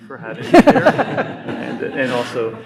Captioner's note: audience laughs